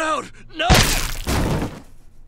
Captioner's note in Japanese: 銃声